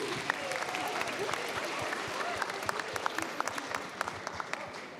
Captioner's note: applause